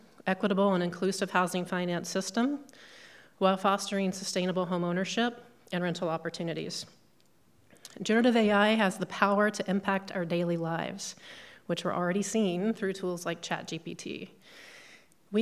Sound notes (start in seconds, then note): none